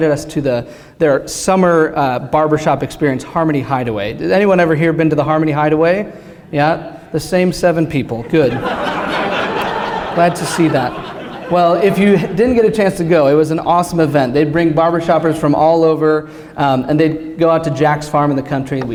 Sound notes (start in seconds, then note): 8.2 laughter